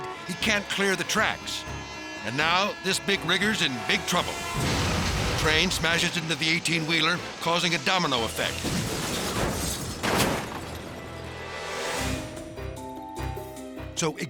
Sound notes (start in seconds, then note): 10.5 cars thudding; 13.1 bright music